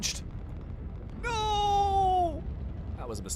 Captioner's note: screams